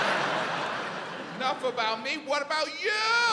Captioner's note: audience laughs